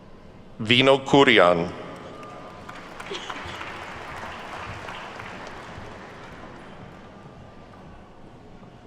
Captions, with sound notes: Vino Kurian. (attendees clapping)